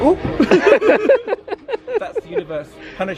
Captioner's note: both laughing